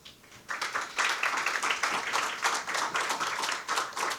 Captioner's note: audience applauding